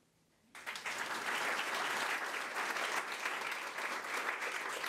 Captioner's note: crowd applause